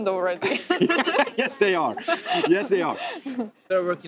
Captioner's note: laughing